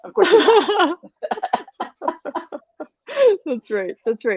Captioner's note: laugh